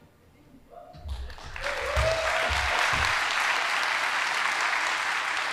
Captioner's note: audience applauding